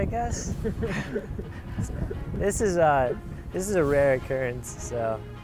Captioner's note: laughing